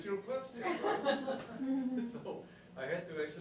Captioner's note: laughter